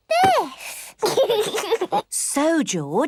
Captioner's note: giggles